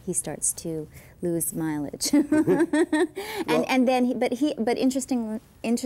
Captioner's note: laughing